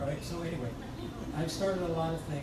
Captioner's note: crowd laughs